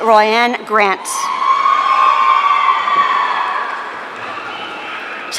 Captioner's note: audience cheering